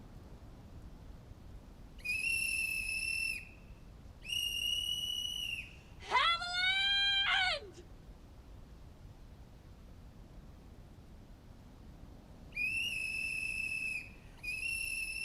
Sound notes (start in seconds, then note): 2.0 whistle blows; 12.5 whistle blows